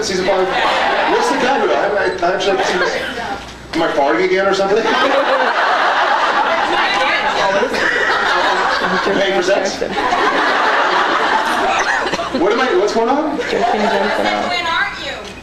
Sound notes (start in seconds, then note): 5.0 laughs; 9.8 scattered laughs; 13.4 scattered laughs